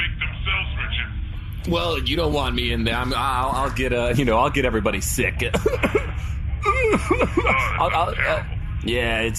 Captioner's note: coughs